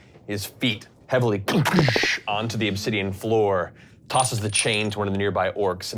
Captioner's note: thumping sounds